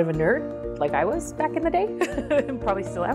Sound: laughs

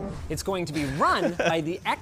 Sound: laughter

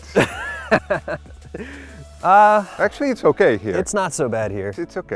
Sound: laughs

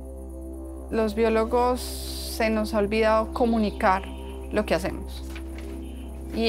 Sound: speaking in foreign language

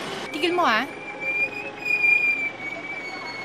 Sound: tires screech

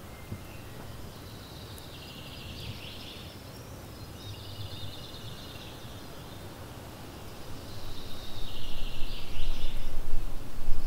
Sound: speaking in foreign language

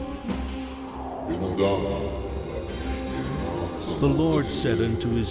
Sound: deep male voice speaking foreign language

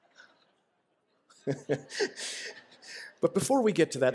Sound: laughter

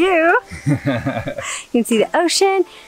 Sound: laughing

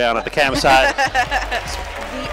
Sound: laughs

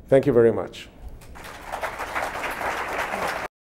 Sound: applause

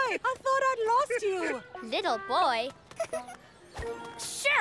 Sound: giggles

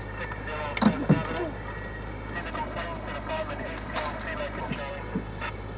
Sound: police radio chattering

